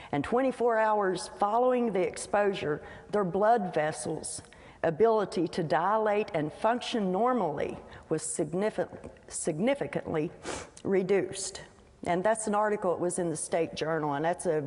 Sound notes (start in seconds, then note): none